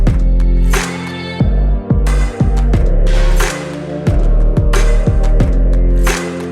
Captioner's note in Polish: Aplauz